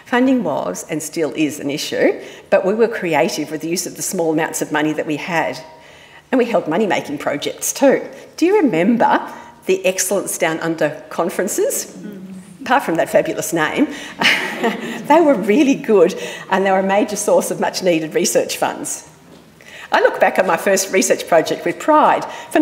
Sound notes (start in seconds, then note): 13.6 laughs; 14.1 audience laughing